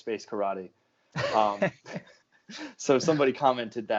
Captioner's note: laughing